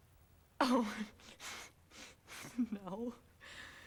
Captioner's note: giggles nervously